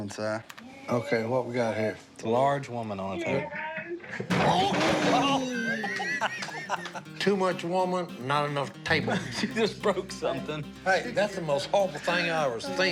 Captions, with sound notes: OK. What we got here? It's a large woman on a table. [laughter] Too much woman, not enough table. She just broke something. Hey. That's the most awful thing I've ever seen.